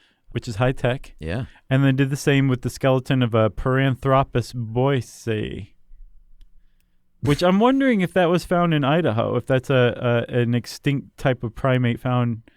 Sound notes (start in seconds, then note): 7.1 laughs